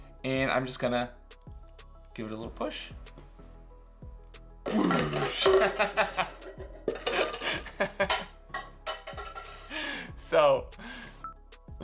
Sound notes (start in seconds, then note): 4.6 plastic cups clanging; 5.3 Mr. C laughing